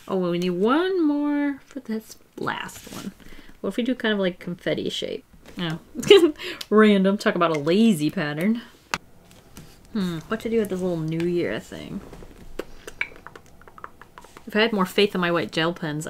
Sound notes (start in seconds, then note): 5.8 laughs